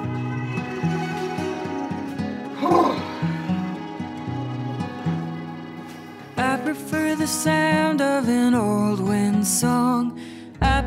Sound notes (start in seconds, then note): 0.2 soft music continues; 2.5 sighs